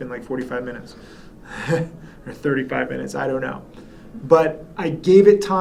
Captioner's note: chuckles